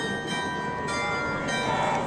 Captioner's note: bells ringing